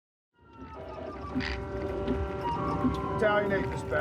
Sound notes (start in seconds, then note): 0.3 sirens